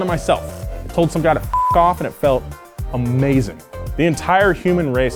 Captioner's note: beep